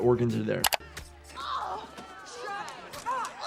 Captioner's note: Brenda groaning